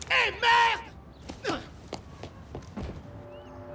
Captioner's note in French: Crier en russe